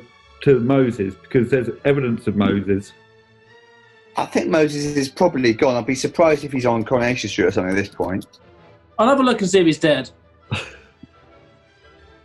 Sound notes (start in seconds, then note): 10.5 chuckling